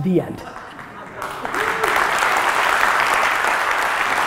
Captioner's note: audience laughter and applause